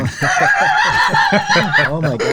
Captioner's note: laughing